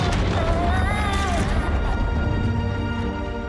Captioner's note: yelling in fear